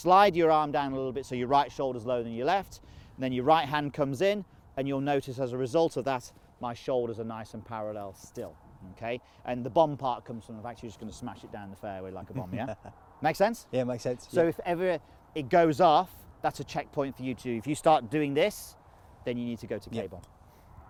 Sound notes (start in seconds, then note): 12.2 laughs